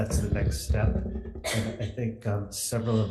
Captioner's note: woman coughing